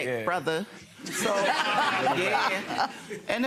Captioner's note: audience laughing